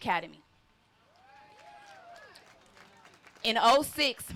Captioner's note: applause